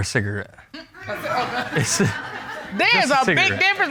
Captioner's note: chuckles nervously; audience laughs